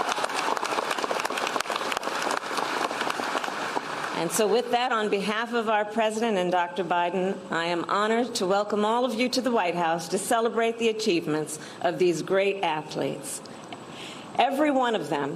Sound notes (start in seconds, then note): 2.5 applause